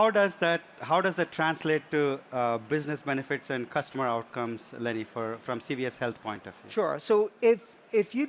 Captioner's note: overhead announcement